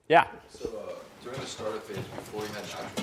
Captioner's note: voiceover